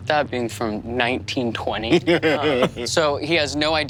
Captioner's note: Lou laughs